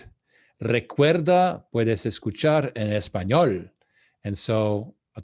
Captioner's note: speaking in Spanish